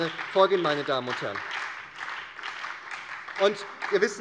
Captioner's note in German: Beifall bei der SPD